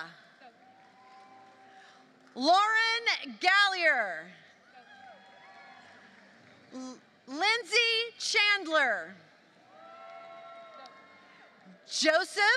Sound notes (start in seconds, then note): 0.0 applause; 5.3 applause; 10.6 applause